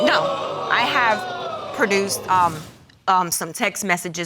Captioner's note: audience exclaiming